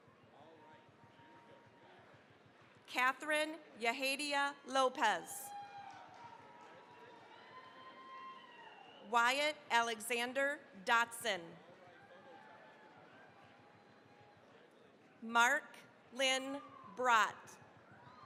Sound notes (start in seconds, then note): 0.9 applause; 5.2 cheering, applause; 11.6 cheering, applause